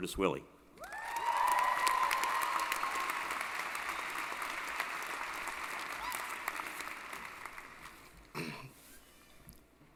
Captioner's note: applause & Cheering